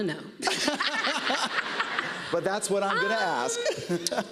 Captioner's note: laughter; laughs